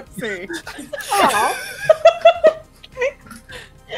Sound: laughter

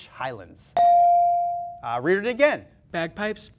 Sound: ding

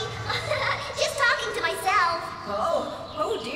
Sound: giggling

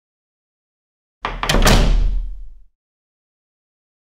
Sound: sound of door

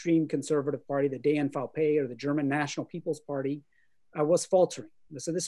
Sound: german

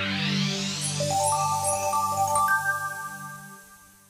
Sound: bells chiming

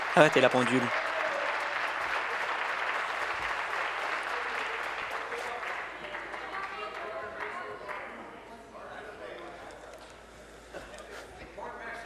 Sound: applause

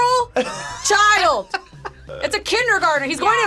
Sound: laughs

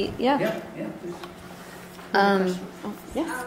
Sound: voiceover

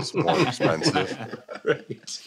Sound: laughter

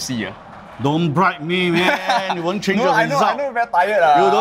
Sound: laughs

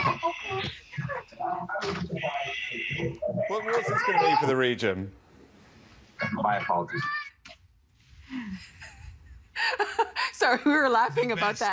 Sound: laughter

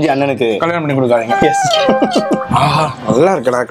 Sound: laughs

